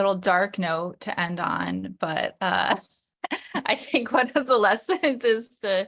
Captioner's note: laughter